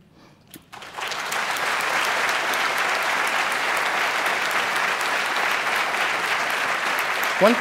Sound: applause

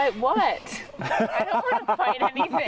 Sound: laughing

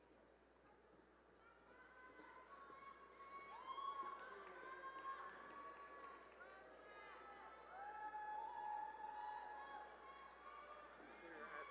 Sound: cheering and applause

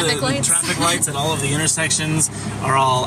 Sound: laughing

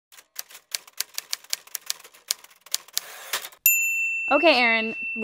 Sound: typewriter sound effect

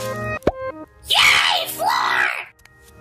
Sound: pop

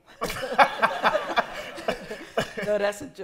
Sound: laughter

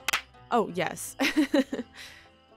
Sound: laughs

